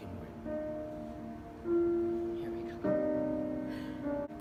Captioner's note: whispers